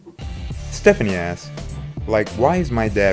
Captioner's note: voiceover